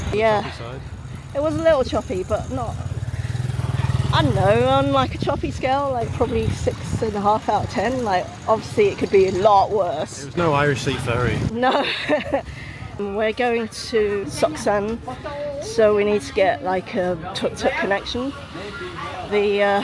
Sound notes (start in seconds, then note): 11.6 laughter